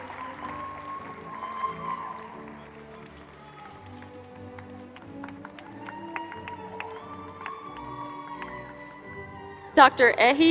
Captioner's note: applause